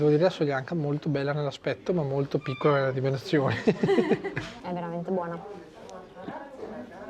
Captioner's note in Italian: risate